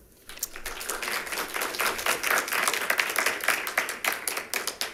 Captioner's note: members clapping